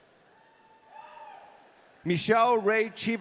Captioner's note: audience cheering